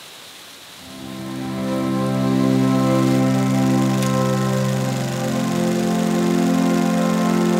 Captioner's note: leaves rustling; peaceful music; film reel clicking